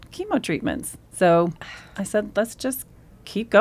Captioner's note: exhales